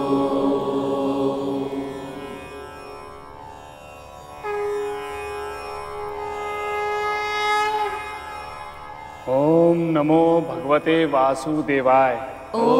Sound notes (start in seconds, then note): 4.4 conch blows